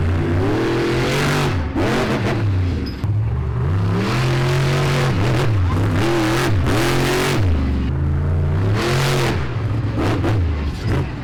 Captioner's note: monster Truck Engine Sounds